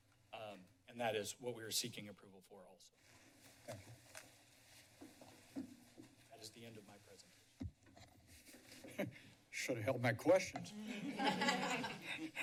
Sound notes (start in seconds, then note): 8.5 chuckles; 10.7 laughs